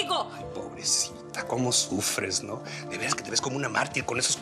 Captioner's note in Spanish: Con sarcasmo